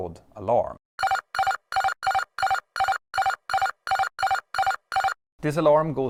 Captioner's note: cavalry alarm beeping